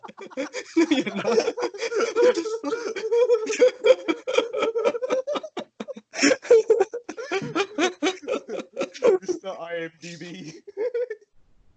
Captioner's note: sounds of dying seal and maniac laughter